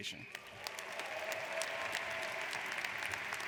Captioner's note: applauding